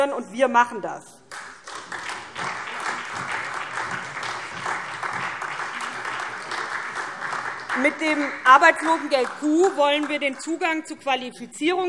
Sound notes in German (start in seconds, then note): 1.2 Beifall SPD